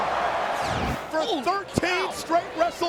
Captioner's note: audience cheers